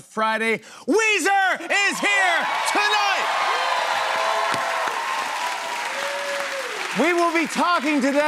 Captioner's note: cheers and applause